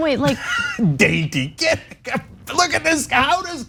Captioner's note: laugh